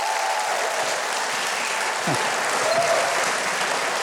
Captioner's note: audience cheers